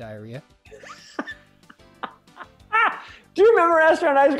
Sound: laughs

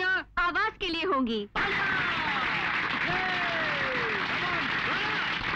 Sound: applauding

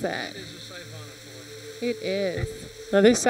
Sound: water whooshes

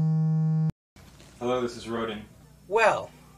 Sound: phone vibrating

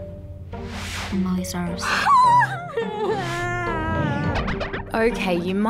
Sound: gasps and cries

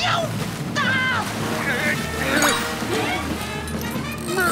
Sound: grunting

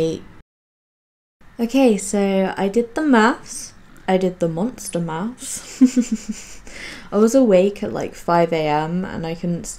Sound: laughs

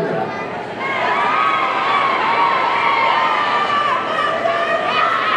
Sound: audience cheering

